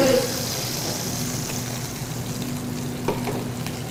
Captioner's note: sizzling